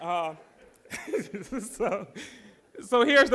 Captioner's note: laughing